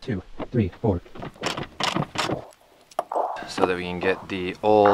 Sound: ratchet clicking

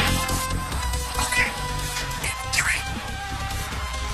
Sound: whispering

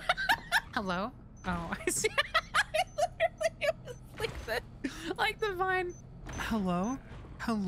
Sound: laughter; laughing

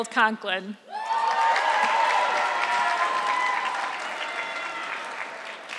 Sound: audience clapping

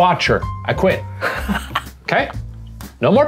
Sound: laughing

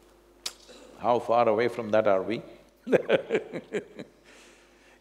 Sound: laughs

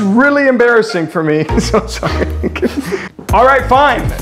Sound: laughing

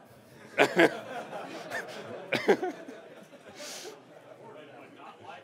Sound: laughter

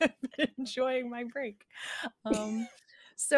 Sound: person laughing

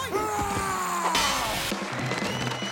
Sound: screaming; cheering

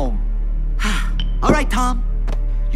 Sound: sighs

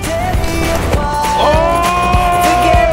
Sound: yelling

